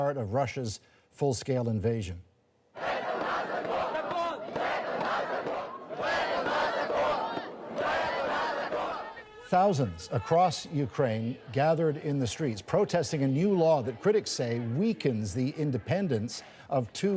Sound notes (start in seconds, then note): 5.9 crowd noise; 7.2 chanting